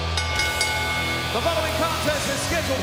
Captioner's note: bell ringing